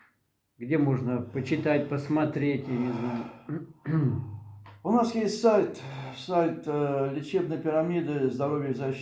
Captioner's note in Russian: откашливается